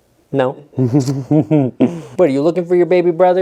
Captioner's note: giggles